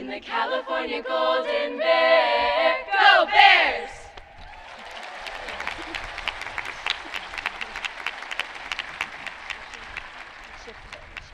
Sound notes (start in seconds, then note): 4.3 audience cheering